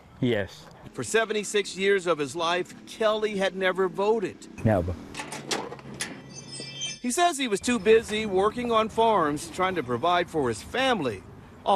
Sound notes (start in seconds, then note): 6.2 wind chimes tinkling